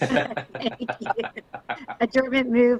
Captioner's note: all laugh